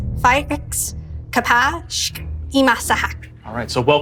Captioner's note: speaking foreign language